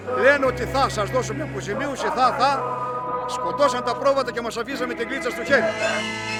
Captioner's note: speaking in foreign language